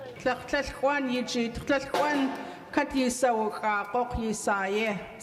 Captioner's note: speaking in Lingít